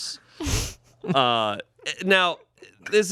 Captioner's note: laughs